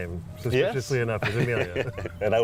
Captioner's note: laughter